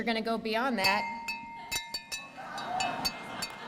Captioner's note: bell